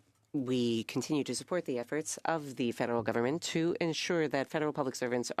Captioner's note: speaking French